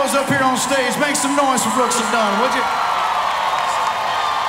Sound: cheers

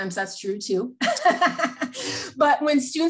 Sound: laughs

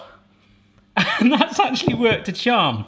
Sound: laughing

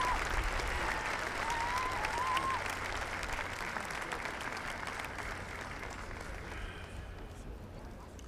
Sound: applause

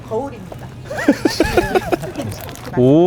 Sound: laughing at the unexpected gift

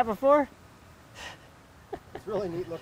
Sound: laughing

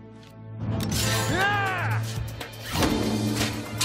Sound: yelling

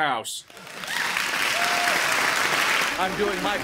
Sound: cheers and claps

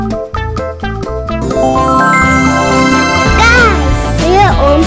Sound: magic sound

